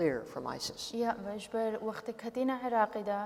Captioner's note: speaking kurdish